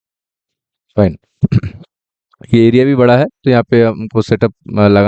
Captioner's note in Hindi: गला साफ़ करने की आवाज़